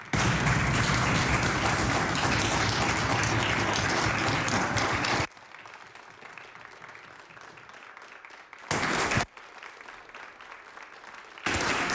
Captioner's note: applause